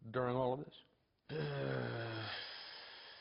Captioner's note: groans